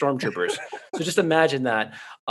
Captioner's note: laughing